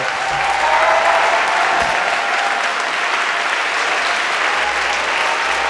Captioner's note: audience cheering and applauding